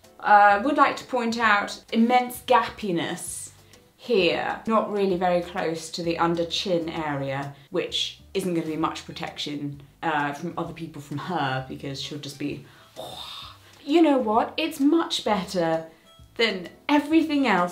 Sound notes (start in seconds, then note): 12.6 exhales heavily